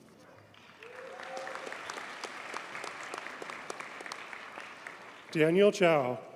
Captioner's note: audience cheers and applauds